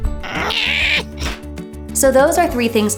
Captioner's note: screams